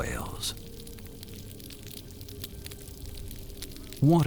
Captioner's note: crackling noise over hydrophone